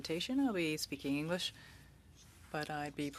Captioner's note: speaking French